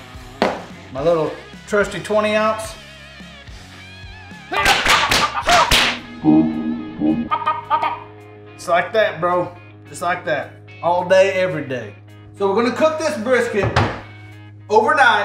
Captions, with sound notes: - My little trusty 20 ounce. (karate sound effects) Just like that, bro, just like that, all day every day. So we're gonna cook this brisket overnight